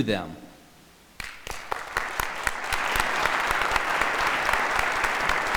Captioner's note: audience applauding